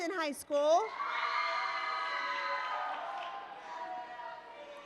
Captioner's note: applause